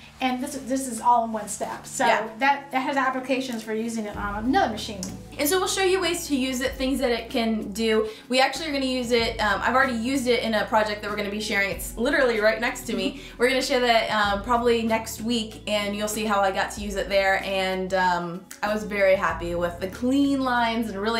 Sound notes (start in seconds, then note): 13.2 laughing